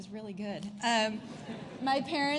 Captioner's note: laughter